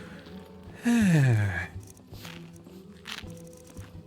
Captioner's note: sigh